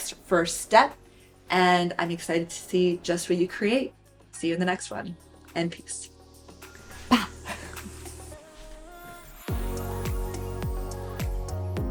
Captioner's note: laughs